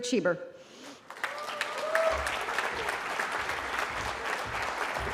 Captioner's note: cheering